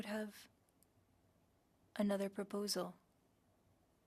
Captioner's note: speaking French